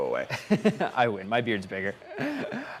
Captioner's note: laughs